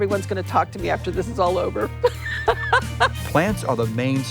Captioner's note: laughs